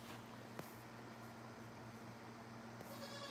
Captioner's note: goat bleating